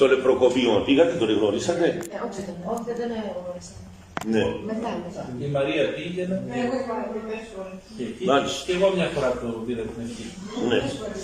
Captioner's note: people in the crowd discuss meeting him